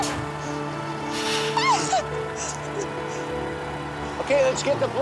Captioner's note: shouting